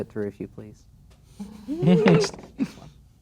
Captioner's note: dice rolling; players laughing